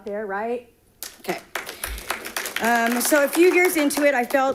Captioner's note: audience clapping